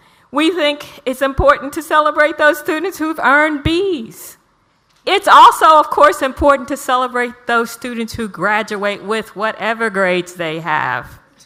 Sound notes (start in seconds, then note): none